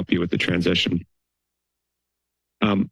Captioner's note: pause